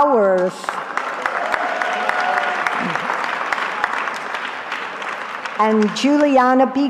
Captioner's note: cheering